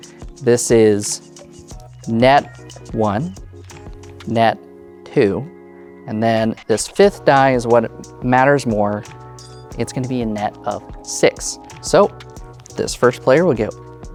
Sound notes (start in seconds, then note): none